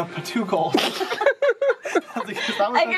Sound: laughing

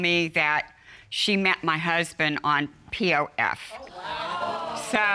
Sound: audience exclaims

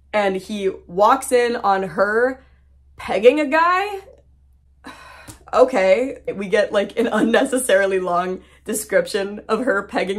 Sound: sigh

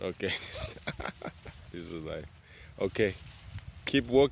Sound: laughter

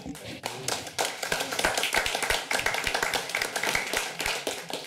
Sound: clapping

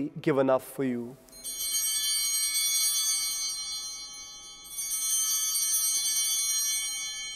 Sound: chimes ringing

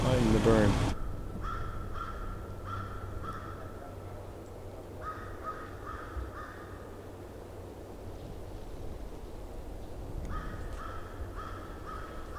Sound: american crow calls

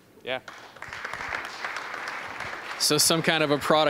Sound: applause

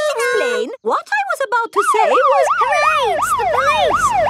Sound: siren wailing

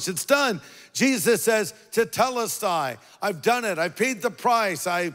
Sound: speaks in foreign language

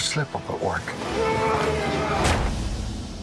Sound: grunting

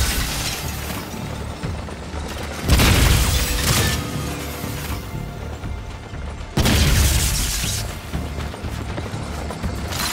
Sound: gunfire

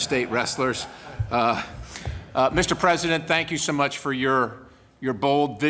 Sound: laughter

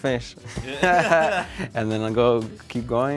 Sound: laughing

